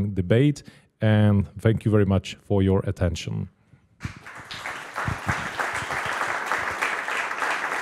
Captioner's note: applause